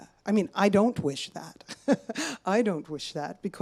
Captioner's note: chuckles